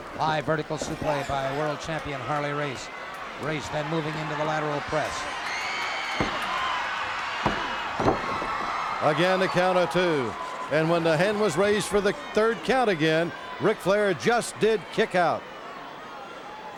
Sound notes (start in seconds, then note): 6.3 crowd screams